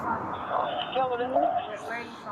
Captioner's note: radio chatter